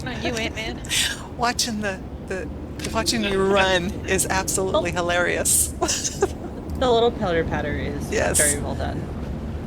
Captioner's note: laughter